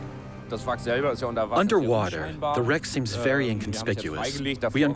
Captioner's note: in German